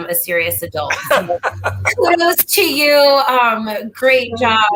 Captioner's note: laughter